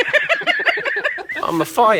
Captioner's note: laughter